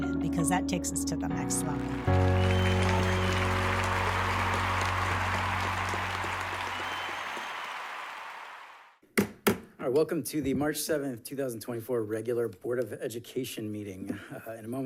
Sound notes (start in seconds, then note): 1.7 audience cheering and applauding; 9.2 gavel pounding